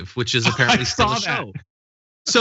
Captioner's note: laugh